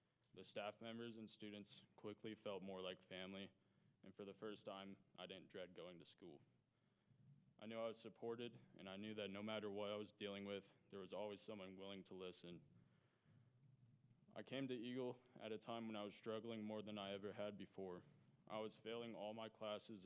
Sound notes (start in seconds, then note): none